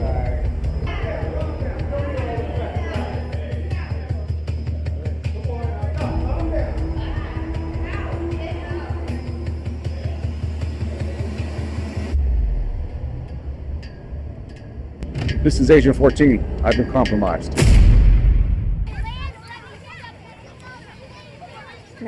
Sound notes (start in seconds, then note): 15.0 flag pole clanking; 18.0 booming music